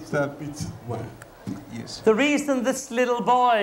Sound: speaking in local tongue

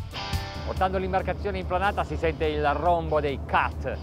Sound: speaking in foreign language

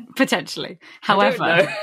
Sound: laughs

